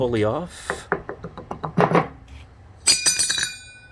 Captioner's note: pulley wiggling; pulley clanging